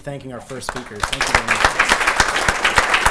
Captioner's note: applause